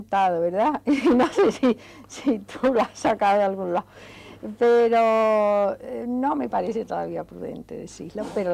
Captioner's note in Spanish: risas